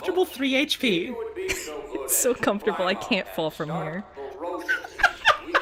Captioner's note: laughs; laughing